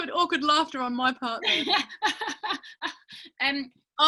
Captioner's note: laughing